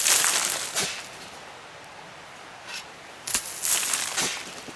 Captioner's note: birds singing